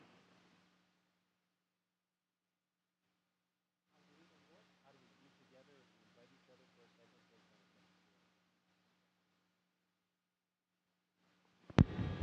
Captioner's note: no audio